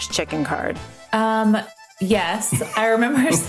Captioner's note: laughs